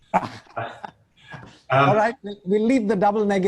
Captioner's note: laughing